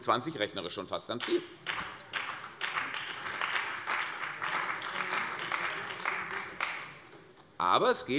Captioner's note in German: Beifall bei der CDU und dem BÜNDNIS 90/DIE GRÜNEN